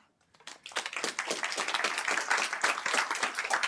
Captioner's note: applause